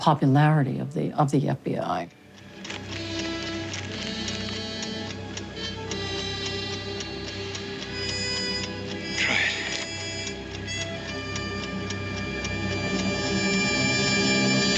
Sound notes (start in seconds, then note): 2.7 dramatic music; 4.3 ticking; 11.7 ticking